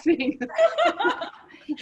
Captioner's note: laughter